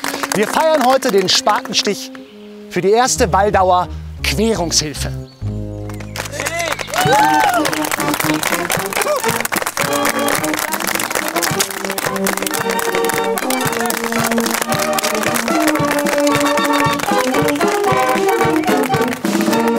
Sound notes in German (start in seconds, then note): 6.3 Jubel; 9.8 Feierliche Blasmusik